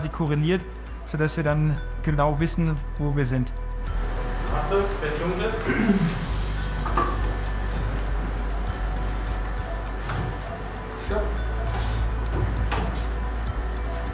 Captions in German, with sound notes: sodass wir dann genau wissen, wo wir sind. Achtung, es wird dunkel. (Räuspern) (Angespannte Musik) Stopp.